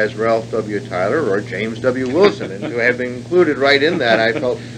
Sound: laughs

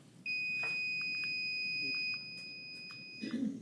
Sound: timer beeps

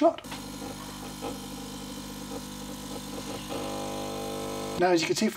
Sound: coffee machine hums

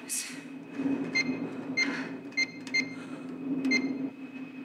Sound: keypad beeps

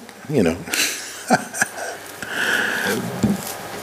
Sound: laughs

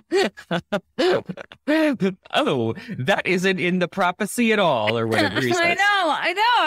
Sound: laughing

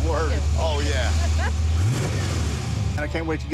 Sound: engine revs

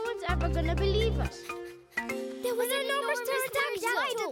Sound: overlapping chatter

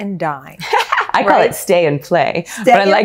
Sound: laughs

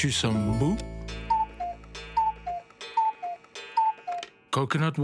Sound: cuckoo clock sounding

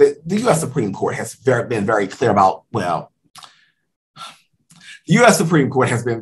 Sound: sigh

